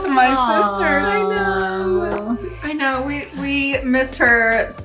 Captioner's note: sisters exclaiming